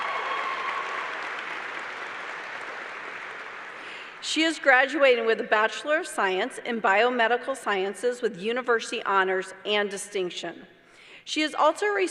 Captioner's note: applause